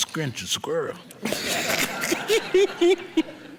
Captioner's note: people laughing